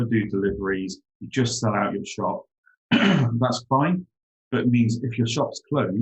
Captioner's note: clears throat